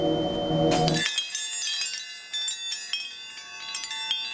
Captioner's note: chimes tinkling